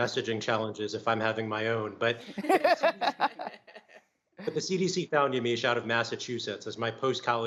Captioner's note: laughter